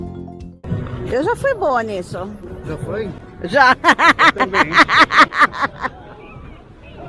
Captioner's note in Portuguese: risos